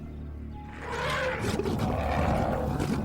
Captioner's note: growls; elephant trumpets